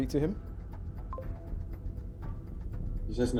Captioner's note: computer bleeps